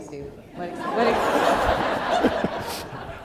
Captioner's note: laughter